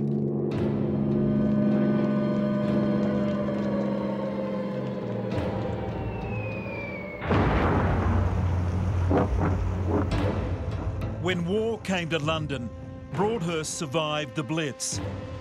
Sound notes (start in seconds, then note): 0.1 melancholy music; 7.2 bombs thundering